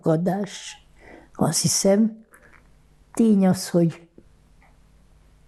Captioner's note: none